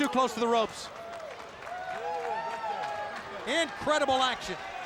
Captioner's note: crowd cheering